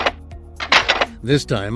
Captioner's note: Sounds of various IG-88 weapons being "locked & loaded"